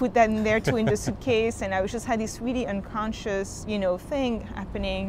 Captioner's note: laughs